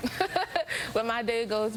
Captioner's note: laughter